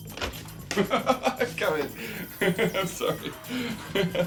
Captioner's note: laughs